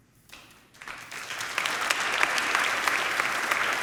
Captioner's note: crowd applauding